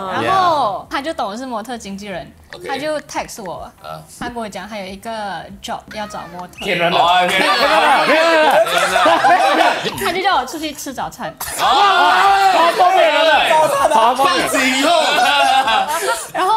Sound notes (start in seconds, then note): 8.1 laughs; 11.3 commotion